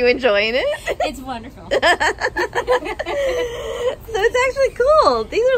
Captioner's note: both laughing